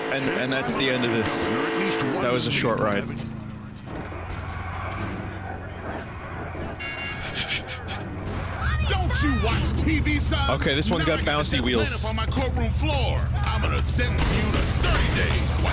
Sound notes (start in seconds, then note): 6.0 engine sounds and crashing; 6.5 beep beep; 7.1 chuckles